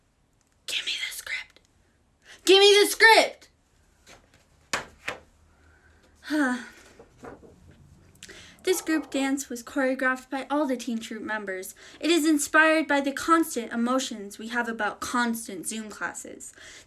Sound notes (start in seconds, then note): 0.4 whispered; 2.3 yelling